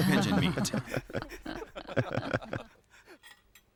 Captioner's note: laughter